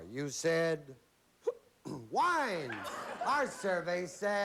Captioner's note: hiccups